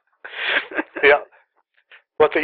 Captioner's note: laughter